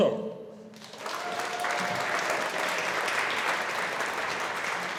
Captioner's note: audience applauding